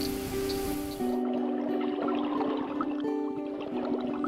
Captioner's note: frogs calling; underwater bubbling; frogs calling